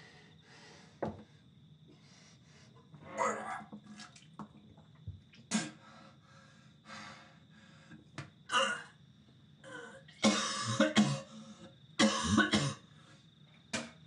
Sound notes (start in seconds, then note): 3.1 vomiting; 3.2 crickets chirping